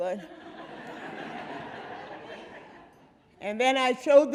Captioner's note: audience laughing